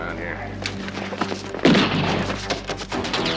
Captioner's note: gun fires